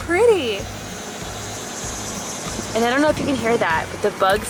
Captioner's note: cicadas buzzing